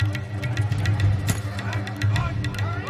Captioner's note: thud